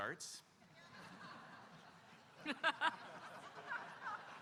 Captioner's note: audience laughing